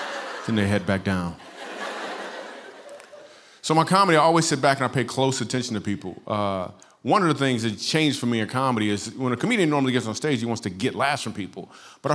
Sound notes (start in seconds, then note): 1.4 laughter